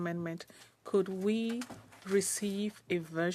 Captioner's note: speaking French